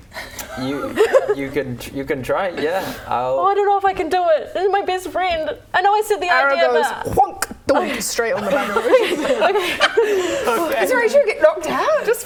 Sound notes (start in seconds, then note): 7.7 donk; 8.3 laughing